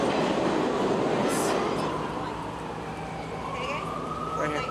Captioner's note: train rushes through; distant police sirens